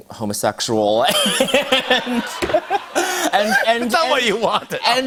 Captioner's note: laughter